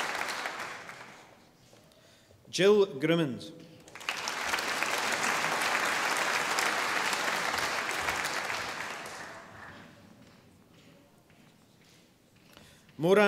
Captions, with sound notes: Jill Grimmond. (audience applauding)